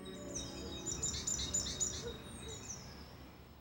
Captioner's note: birds warbling